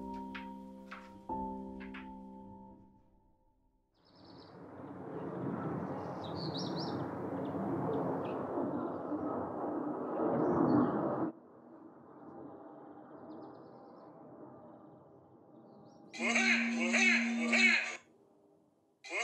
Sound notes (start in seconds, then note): 6.1 birds chirping; 16.1 angry-clown laugh alarm rings